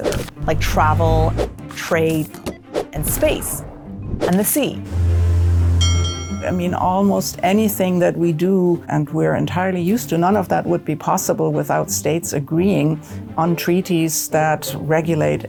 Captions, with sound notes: like travel, trade, and space, and the sea. (Fog horn blowing, bell dinging) I mean, almost anything that we do and we're entirely used to, none of that would be possible without states agreeing on treaties that regulate